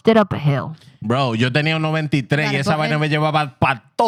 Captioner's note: speaking Spanish